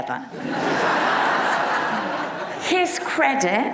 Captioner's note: audience laughs